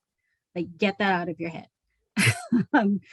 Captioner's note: laughs